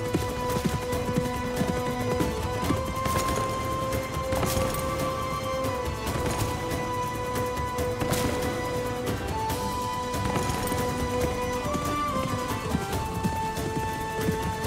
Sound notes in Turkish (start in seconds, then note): 0.0 Müzik - Hareketli; 3.9 At nalı sesi